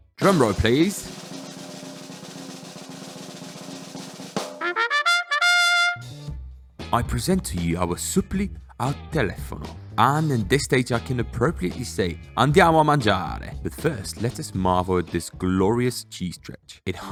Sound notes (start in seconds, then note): 0.1 drum beating; 3.4 jaunty horn music; 11.8 speaking in foreign language